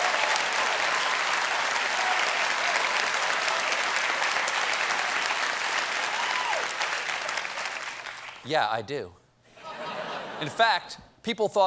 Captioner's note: cheers and applause